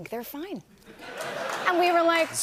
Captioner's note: laughter